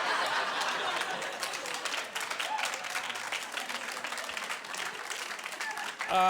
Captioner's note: laughing; clapping